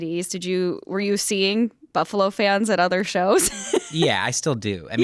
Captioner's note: chuckles